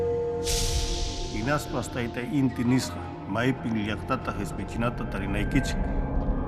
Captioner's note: speaking Quechua